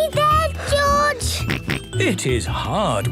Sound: panting; snorts

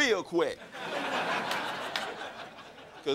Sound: crowd laughing

